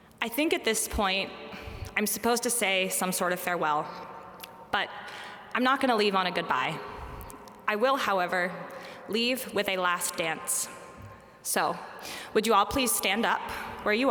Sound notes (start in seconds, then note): none